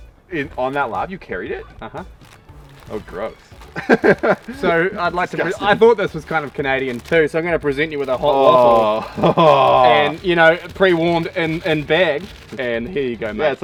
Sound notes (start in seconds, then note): 3.7 laughs; 9.1 groans in disgust